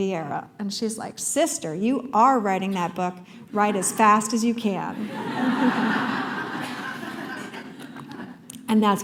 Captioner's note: laughter